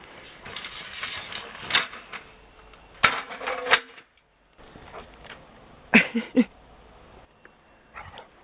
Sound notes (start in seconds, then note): 5.9 laughter